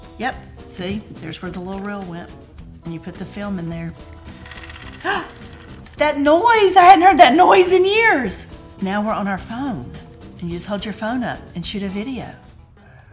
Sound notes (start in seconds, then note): 4.1 camera rattling; 5.0 gasping